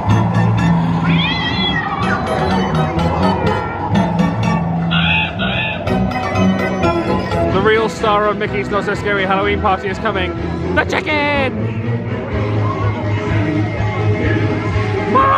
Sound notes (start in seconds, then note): 0.1 bright spooky music; 1.0 cat screeches; 2.4 whimsical spooky music; 4.9 crow caws